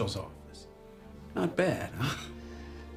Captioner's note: vince chuckles